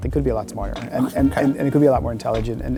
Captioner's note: laughs